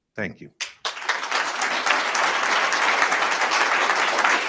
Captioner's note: attendees applauding